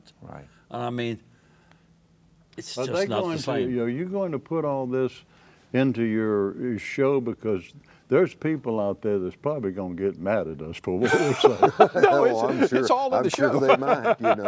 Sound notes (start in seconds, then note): 11.0 laughs; 13.2 laughter